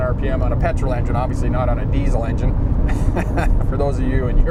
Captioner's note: laughs